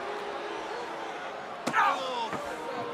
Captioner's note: crowd booing